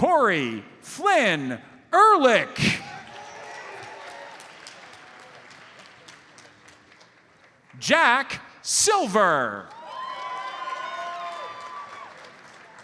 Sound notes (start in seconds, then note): 3.0 audience applauds; 9.7 audience cheers and applauds